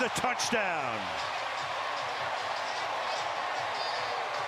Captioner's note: cheering